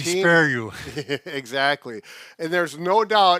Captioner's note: laughs